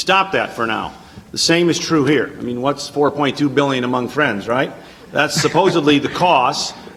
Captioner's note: laughter